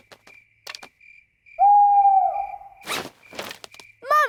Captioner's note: hooting